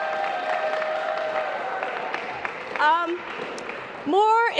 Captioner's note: applause